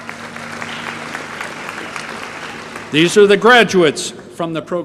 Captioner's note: applause